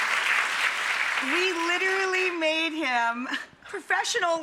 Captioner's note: laughs